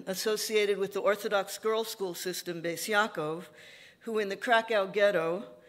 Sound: none

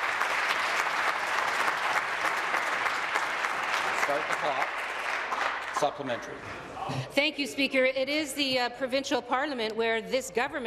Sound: applause

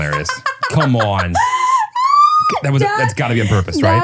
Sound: laughs

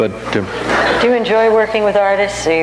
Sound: audience laughs

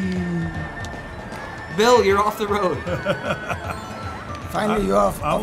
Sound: chuckles

